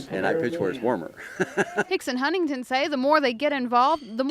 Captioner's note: laughs